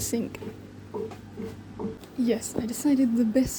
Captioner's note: sink noises